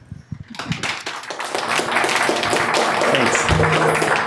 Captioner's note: audience applauding